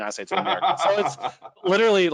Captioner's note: laughing